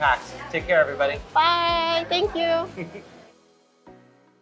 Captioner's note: chuckling; smooth upbeat music